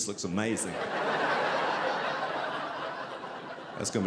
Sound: audience laughing

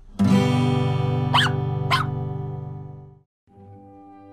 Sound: guitar strum; dog barks

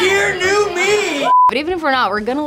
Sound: screen beeping

